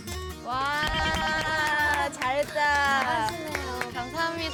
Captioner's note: applause to cheer her up